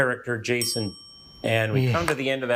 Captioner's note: bell ringing